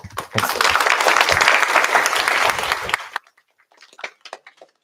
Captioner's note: applause